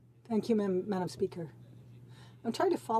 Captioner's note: speaking French